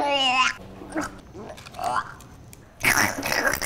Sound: gagging

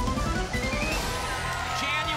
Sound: applause and cheering

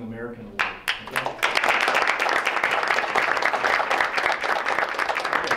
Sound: members applauding

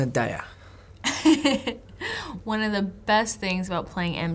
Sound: laughs

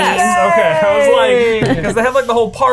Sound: cheering

